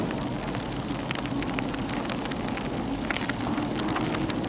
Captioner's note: fire crackling